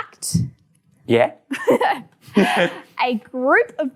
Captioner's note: both laughs